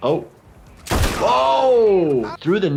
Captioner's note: shotgun cracks